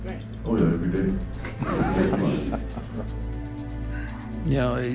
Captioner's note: laugh